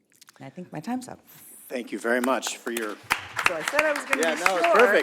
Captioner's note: applause